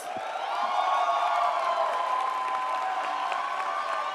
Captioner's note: crowd cheering